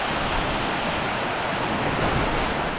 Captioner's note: sound of heavy rain